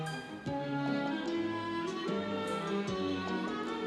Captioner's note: none